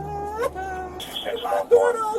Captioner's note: radio chatter